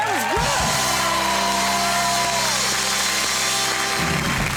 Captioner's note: all clapping